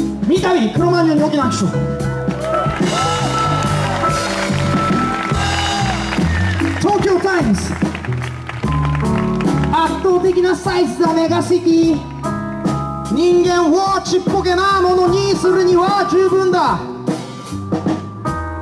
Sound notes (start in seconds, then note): 4.3 audience applauds